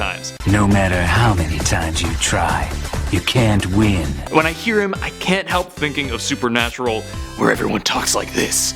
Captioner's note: raspy